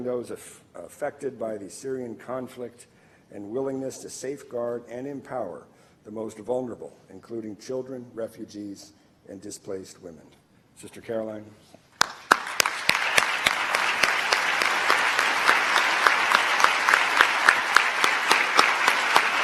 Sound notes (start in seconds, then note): 11.9 applause